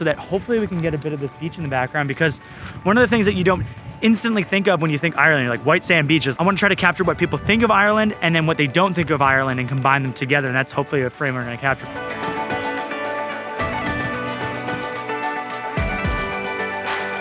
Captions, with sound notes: so that hopefully we can get a bit of the beach in the background, because one of the things you don't instantly think of when you think Ireland, is like white sand beaches. I want to try to capture what people think of Ireland and then what they don't think of Ireland and combine them together, and that's hopefully a frame where going to capture. (upbeat music) (camera clicking)